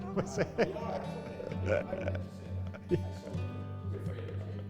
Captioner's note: laughing